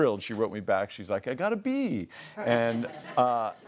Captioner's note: laughs